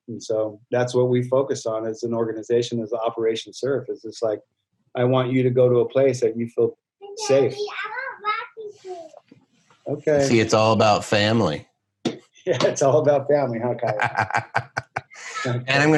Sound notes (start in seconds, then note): 7.1 baby talking; 13.7 laughing